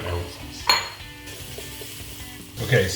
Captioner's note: food sizzling